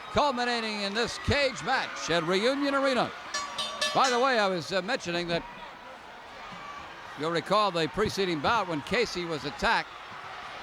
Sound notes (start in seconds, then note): 3.3 bell rings